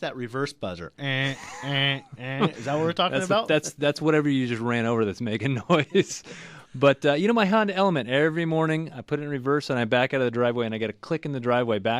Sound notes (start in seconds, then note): 1.0 laughs; 5.3 both laugh